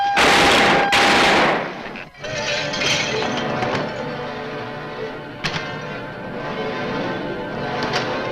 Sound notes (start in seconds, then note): 0.1 gun fires; 1.8 bottles clatter; 2.3 tense orchestral music